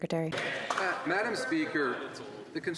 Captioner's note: speaking in French